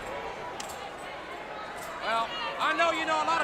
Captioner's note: crowd chatter